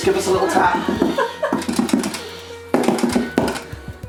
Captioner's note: taps